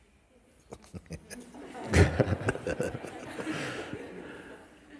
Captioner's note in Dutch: gelach